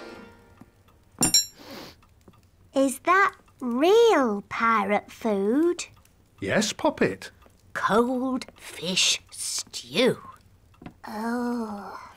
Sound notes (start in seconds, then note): 2.0 sniffs